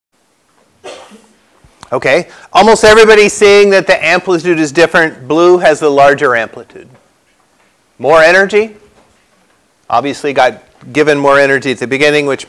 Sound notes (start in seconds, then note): 0.8 cough